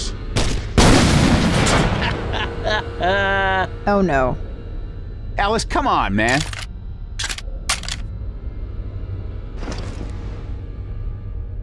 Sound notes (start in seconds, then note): 0.7 explosion; 2.0 laughs